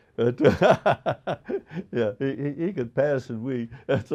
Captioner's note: laughing